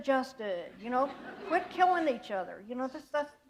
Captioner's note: laughter